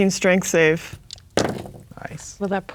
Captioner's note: dice rolling